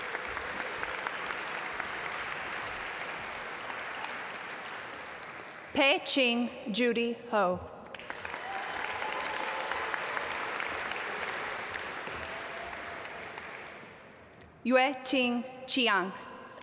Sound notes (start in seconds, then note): 0.0 audience applaud; 7.9 audience applaud